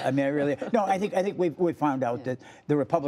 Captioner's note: laughter